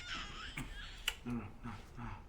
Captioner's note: baby crying